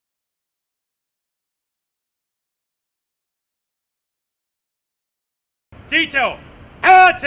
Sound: silence

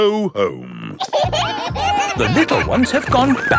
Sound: kids giggling

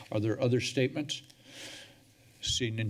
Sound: breaths deeply

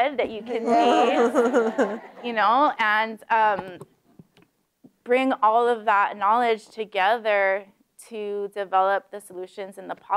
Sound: laughter

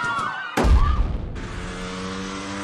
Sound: screams

